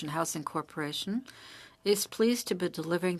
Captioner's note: speaking French